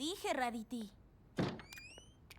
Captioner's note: door opens